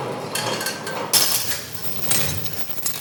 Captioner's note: clacking